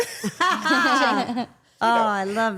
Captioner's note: everyone laughing